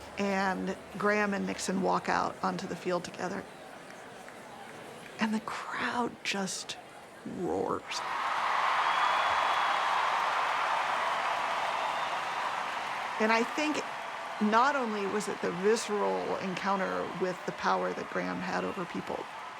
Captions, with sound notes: And Graham and Nixon walk out onto the field together. And the crowd just roars. (roaring cheers, applause) And I think not only was it the visceral encounter with the power that Graham had over people,